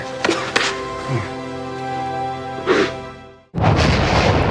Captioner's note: Will sobs; thunder rumbling